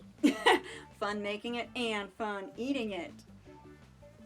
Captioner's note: chuckling